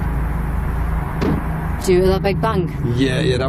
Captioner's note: loud thud